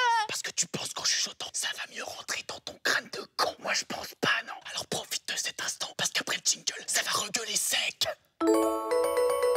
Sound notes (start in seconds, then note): 0.1 whispering